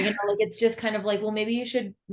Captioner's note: laughs